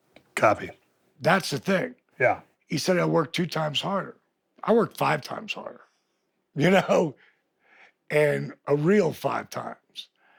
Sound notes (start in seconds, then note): none